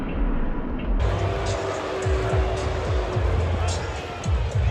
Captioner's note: crowd boos